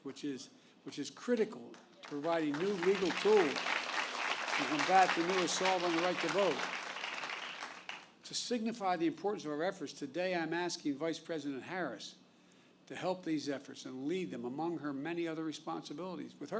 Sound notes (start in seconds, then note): 7.0 applause